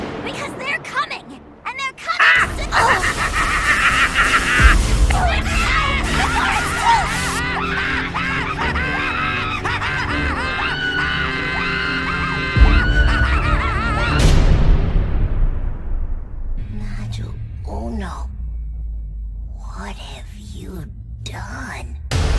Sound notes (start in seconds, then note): 2.2 Numbuh Omega laughing